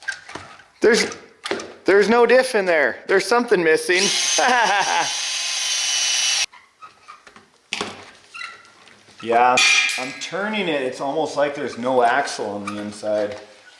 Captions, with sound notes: There's no diff in there. There's something missing. (wheels whirring) Yeah, I'm turning it it's almost like there's not axle on the inside.